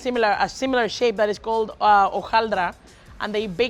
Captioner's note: speaks Spanish